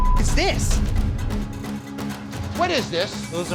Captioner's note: beep